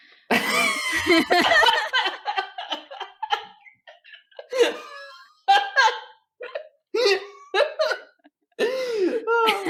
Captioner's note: big laughter